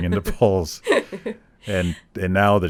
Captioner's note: laughing